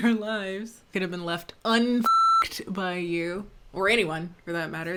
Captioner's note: beep